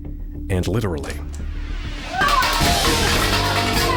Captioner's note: pots and pans banging